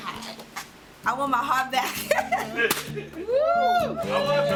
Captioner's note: laughter